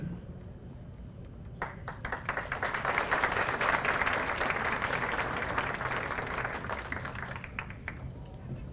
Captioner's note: applause